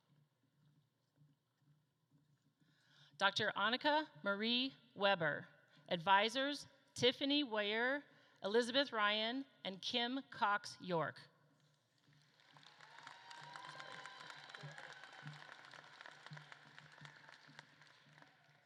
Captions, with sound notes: Dr. Annika Marie Weber, advisors, Tiffany Weir, Elizabeth Ryan, and Kim Cox-York. (audience claps and cheers)